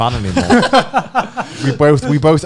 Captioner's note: laughing